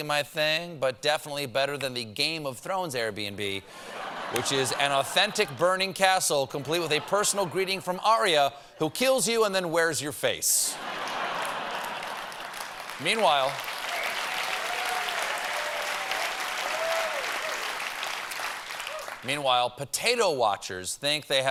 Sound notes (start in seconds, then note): 13.4 applause; 13.4 laughter; 17.6 cheers and applause